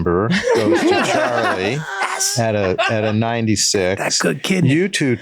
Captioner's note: all laugh